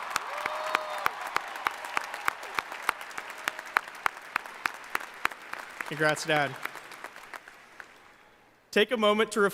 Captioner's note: applause